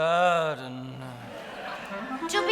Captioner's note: audience laughing